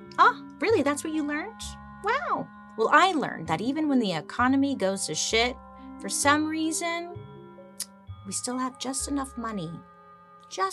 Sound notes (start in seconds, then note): 7.7 tsks